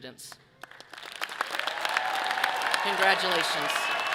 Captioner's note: audience applauding and cheering